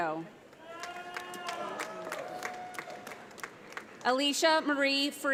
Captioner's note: audience applauds